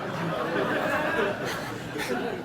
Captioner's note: laughter